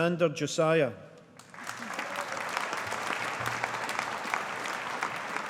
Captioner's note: audience applauding